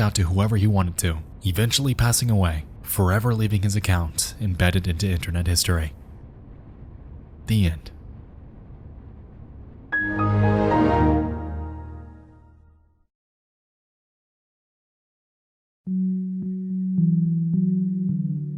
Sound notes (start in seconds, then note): 10.0 shutdown notification chiming; 15.9 soft music